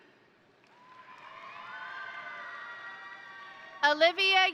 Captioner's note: crowd applauding; crowd cheering